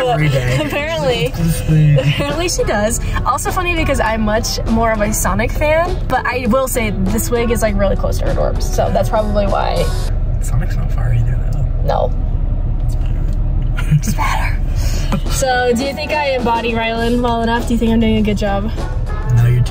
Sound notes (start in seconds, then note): 13.7 laughs; 14.4 whispers